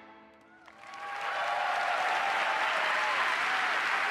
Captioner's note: applause